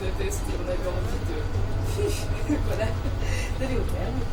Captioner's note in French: bruit de soulagement